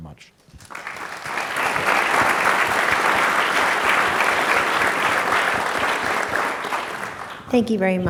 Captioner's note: applause